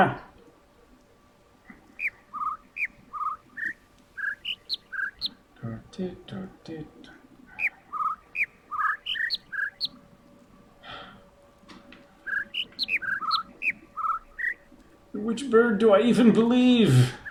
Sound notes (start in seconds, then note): 0.0 overlapping birds chirping, ˩ ˧ ˥ ˩ ˥; 1.7 attempting to imitate notes; 1.7 overlapping birds chirping, ˩ ˧ ˥ ˩ ˥; 10.8 sighs; 12.2 overlapping birds chirping, ˩ ˧ ˥ ˩ ˥